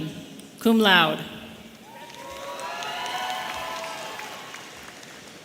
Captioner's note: audience cheering